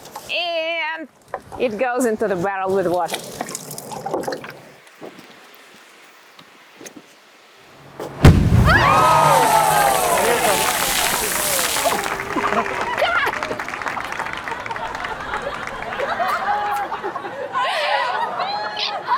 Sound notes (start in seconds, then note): 7.8 explosion; 10.9 cheers and applause; 14.7 laughing